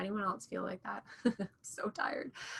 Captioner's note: chuckling